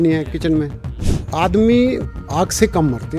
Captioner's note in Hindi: नाक से की जाने वाली आवाज़